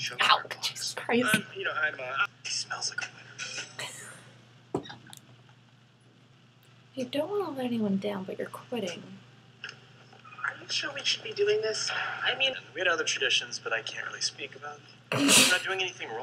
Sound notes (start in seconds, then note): 4.2 laughing silently